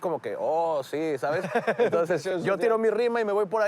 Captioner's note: laughs